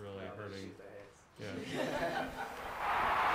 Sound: laughter

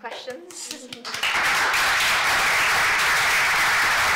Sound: applause

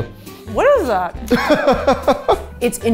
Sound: laughing

